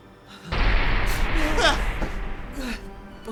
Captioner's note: loud clanking